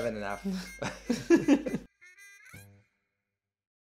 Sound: laughing

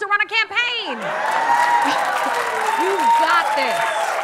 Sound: cheering and applause

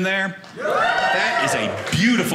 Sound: audience cheering

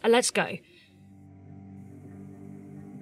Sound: ominous humming

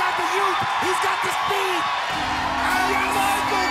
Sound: buzzer blares

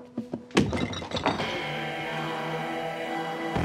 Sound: hits; glass clatters; tense rock music

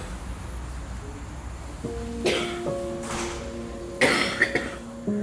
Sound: cough

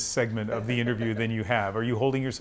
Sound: laughter

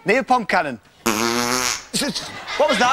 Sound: fart sound effect

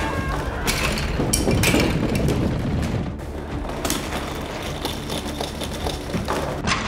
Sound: thunder claps; crash

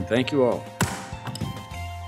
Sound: upbeat music; thudding sound

